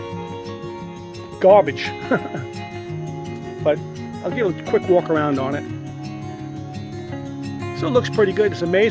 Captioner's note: laugh